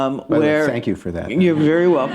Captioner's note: laughter